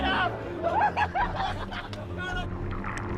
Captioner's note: laughing